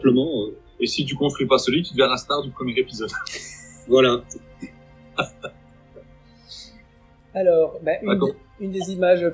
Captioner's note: laughs